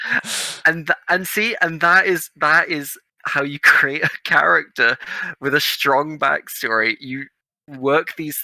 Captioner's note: laughing